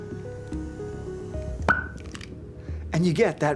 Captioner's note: lighter stick clicks; loud pop